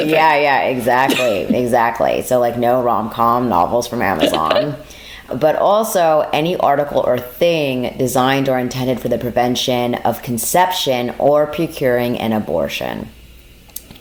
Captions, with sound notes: Yeah, yeah, exactly. Exactly. So, like, no romcom novels from Amazon. [Chuckles]. But also any article or thing designed or intended for the prevention of conception or procuring an abortion.